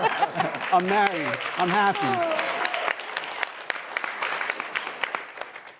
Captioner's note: all laughing; audience applauding